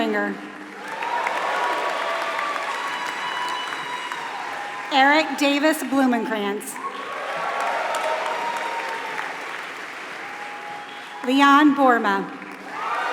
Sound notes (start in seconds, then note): 0.0 applause; 8.7 applause; 12.9 applause